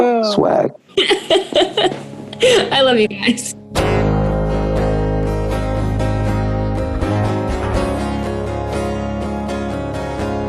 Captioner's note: laughs